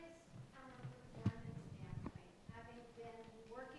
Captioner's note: speaking faintly